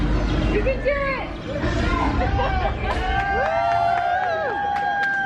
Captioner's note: guests cheering